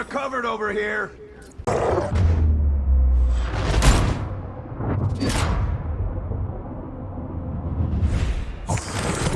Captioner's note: grunts